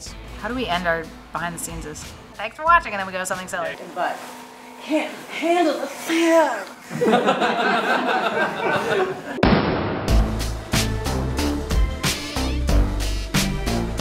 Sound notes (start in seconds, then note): 6.8 laughter